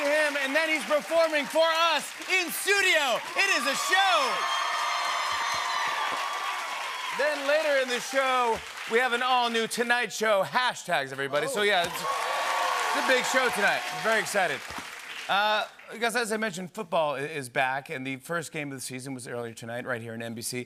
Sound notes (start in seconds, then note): 4.5 cheers and applause